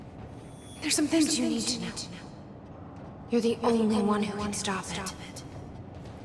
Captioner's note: as an echo from the past